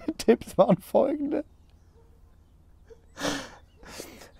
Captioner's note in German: Gelächter